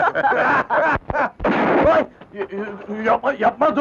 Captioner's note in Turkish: Tabanca sesi